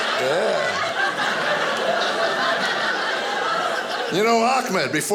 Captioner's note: audience laughing